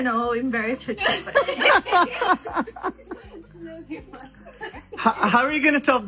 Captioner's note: loud laughter